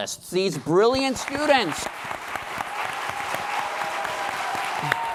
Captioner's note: applause